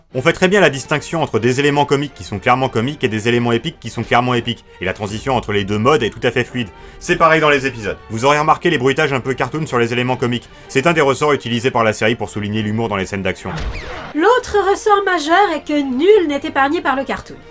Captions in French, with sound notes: On fait très bien la distinction entre des éléments comiques qui sont clairement comique et des élément épiques qui sont clairement épique et la transition entre les 2 modes est tout à fait fluide. C'est pareil dans les épisodes. Vous aurez remarqué les bruitages un peu cartoon sur les éléments comiques. C'est un des ressorts utilisés par la série pour souligner l'humour dans les scènes d'action. *bruit de canard en caoutchouc* L'autre ressort majeur est que nul n'est épargné par le cartoon.